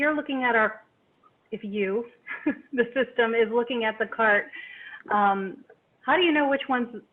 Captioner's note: chuckles